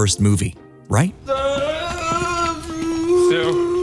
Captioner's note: groaning